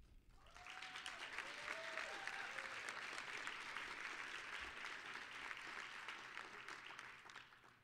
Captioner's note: applause